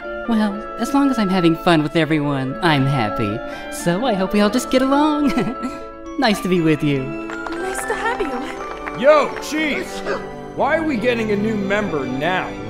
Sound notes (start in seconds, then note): 5.2 chuckles; 10.0 Legosi sneezes